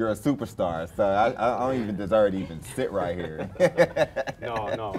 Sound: laughs

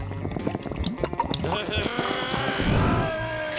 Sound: growling

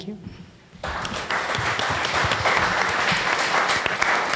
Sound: audience applause

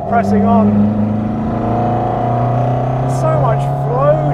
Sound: engine revving

